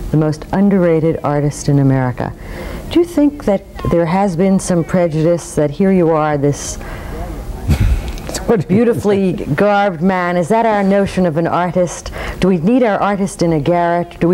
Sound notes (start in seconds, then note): 7.6 laughs